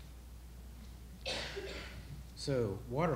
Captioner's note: audience member coughing